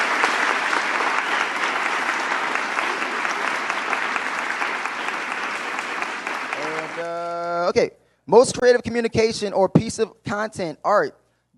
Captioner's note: applause